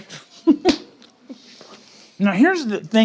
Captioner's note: laughs